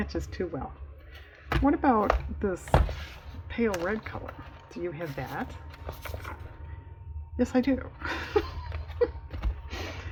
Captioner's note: laughs